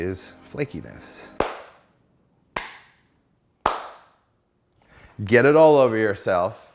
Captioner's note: claps hands